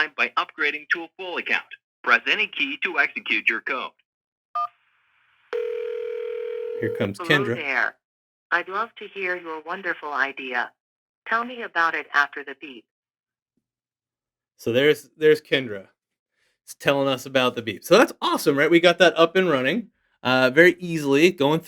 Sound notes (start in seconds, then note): 5.5 phone ringing; 5.5 phone beeps